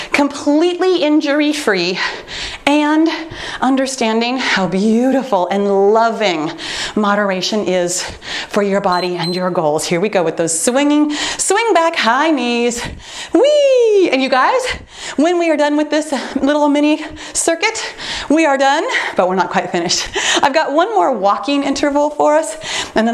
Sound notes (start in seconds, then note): 8.8 timer beeps